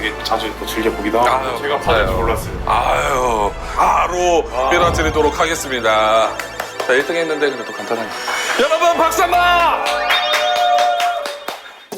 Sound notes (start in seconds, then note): 6.3 applaud